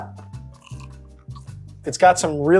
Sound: pizza crunches

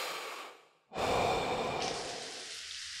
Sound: inhale; e x h a l e; more shower noises

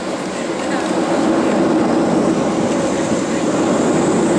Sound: engines rev

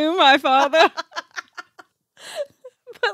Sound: laughing

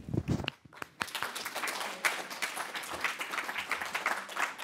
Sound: audience applauding

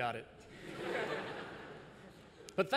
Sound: laughter

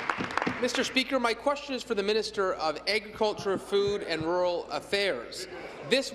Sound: applause

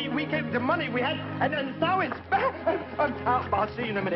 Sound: stammering

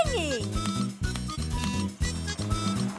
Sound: clapping

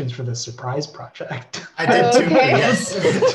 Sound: laughter

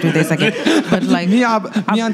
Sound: laughing

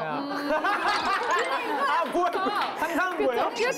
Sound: laughing

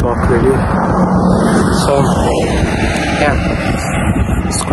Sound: traffic in background

